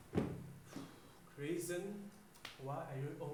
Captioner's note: sigh